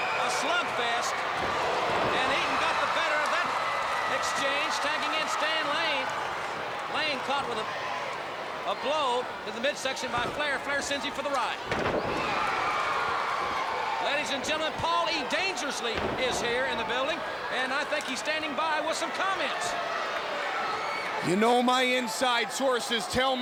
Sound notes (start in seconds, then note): 13.3 crowd cheering